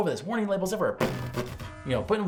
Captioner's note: warning buzzers buzzing